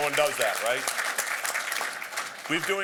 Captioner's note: applause